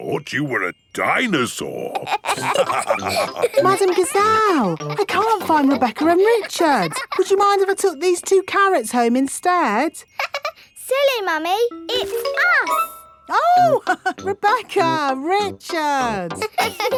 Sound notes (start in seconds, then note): 1.9 all laughing; 10.5 laughs; 16.0 chuckles